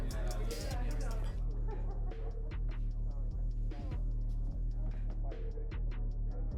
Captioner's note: distant party music playing; people chattering